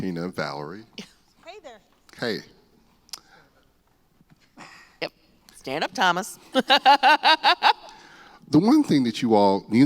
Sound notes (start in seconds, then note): 6.5 laughter